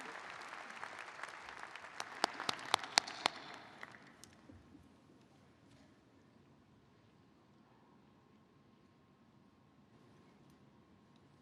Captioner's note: applause